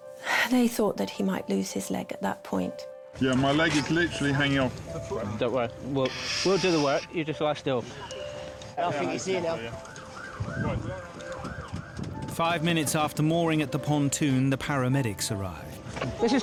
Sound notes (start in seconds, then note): 10.9 siren blaring